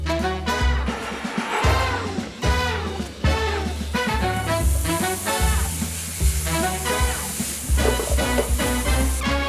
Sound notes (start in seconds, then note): 2.4 onions sizzling